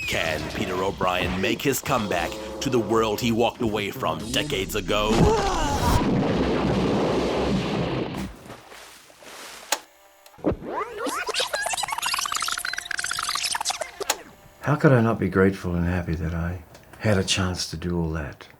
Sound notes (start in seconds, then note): 5.7 shooting sound; 8.3 splash; 9.7 film rewinding; 10.2 click